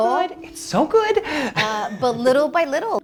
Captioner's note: chuckles